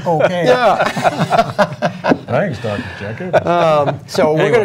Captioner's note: laughter